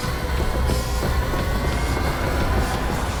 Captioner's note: heavy breathing; ominous music